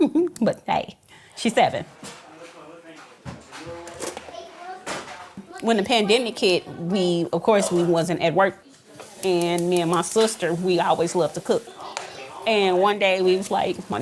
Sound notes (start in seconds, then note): 0.0 laughs; 2.6 family chattering